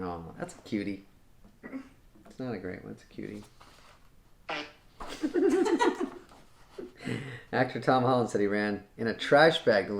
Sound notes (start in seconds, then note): 4.4 fart sound effect; 5.0 chuckling